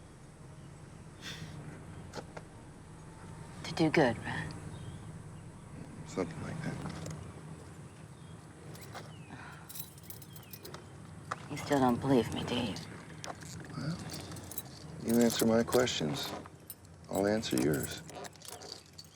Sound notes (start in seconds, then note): 1.2 chuckles; 9.4 keys jingling